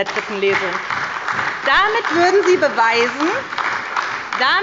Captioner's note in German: Beifall bei der SPD